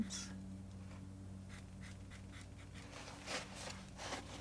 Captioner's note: scratching